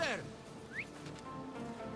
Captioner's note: whistle